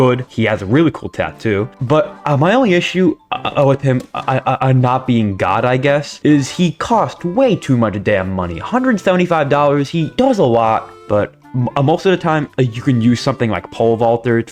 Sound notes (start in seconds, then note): 3.2 stutter Moment